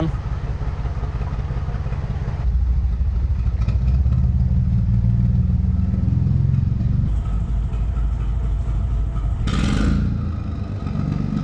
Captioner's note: narrowboat engine sound